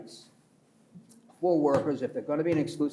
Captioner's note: pats table